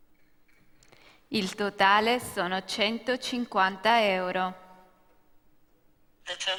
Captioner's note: speaking italian; speaking italian